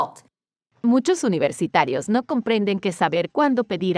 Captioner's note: speaking spanish